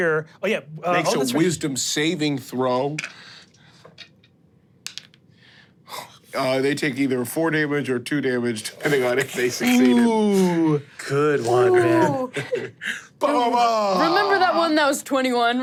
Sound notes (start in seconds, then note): 2.5 dice rolling; 12.2 chuckles